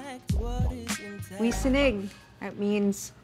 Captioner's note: speaking Ojibwe